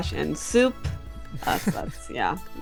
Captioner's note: chuckles